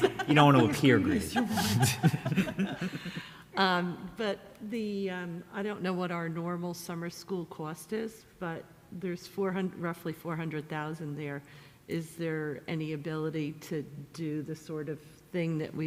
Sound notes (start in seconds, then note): 2.0 many laughing